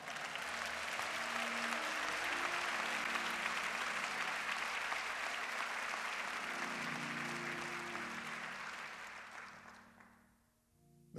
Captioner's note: applause